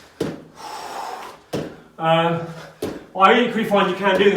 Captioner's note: exhales sharply